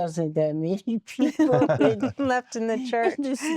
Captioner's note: laughter